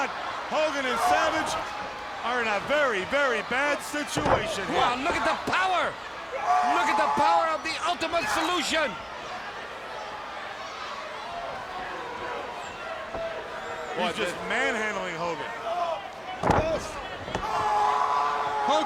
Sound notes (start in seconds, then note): 9.6 crowd yelling; 16.3 body thuds